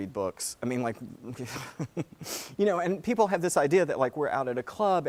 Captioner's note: laugh